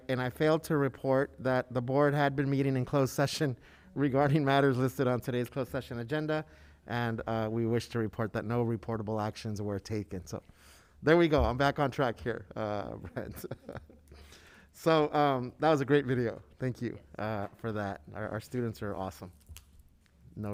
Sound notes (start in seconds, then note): 13.0 laughs